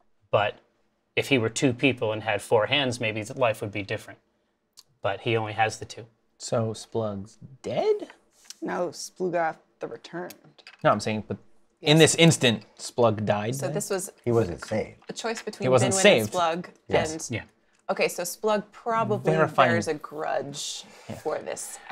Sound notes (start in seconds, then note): none